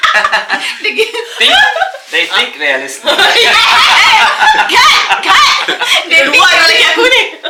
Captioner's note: laugh; laugh